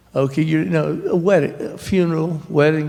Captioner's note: none